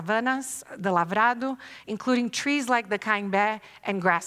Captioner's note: non-english speech